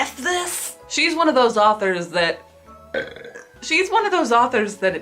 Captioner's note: burps